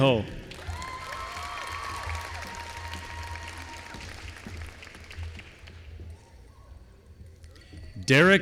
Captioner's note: applause